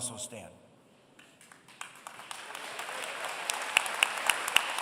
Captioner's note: applause